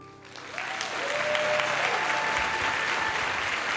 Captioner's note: applause